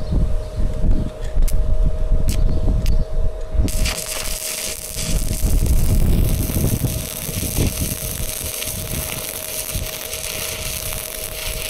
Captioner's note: wind blowing